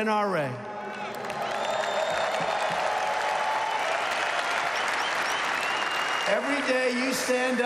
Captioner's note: applause